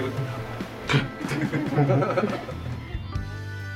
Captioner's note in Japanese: 笑い